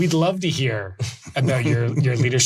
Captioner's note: laughs